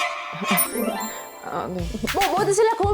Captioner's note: sound effect of remembering she's the youngest